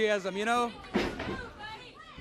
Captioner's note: crowd cheering